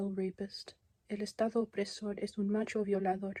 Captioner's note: non-english speech